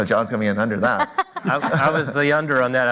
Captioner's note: laughs